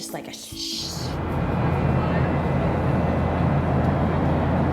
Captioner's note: airplane whirring